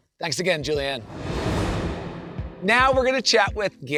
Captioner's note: transition whooshes